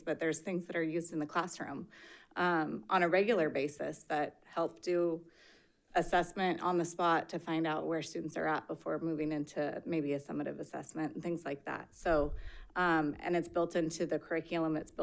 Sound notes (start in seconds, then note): none